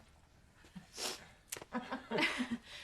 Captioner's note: laughter